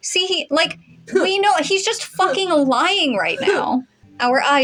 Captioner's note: harrumphing